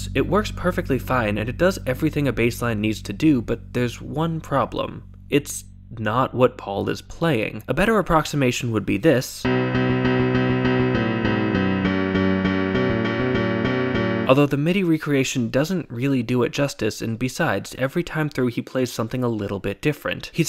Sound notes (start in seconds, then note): 9.5 bang